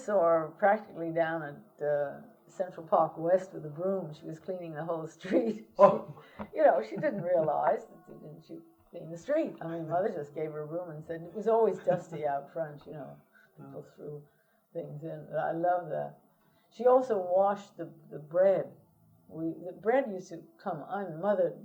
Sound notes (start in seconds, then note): 6.7 laughter